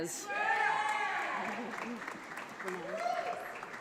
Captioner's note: audience applauds